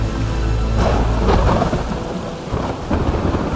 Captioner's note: thunder cracks